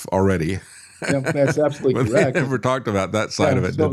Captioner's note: laughs